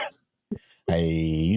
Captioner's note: laughing